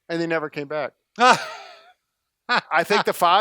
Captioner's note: laughing